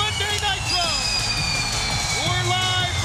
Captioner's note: pyrotechnics exploding